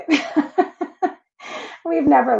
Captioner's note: laughs